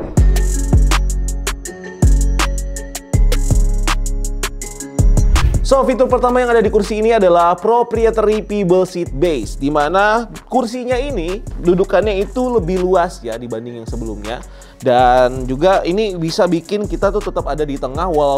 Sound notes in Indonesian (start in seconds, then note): 0.2 upbeat music; 5.2 suara transisi